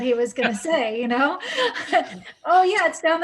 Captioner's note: laughs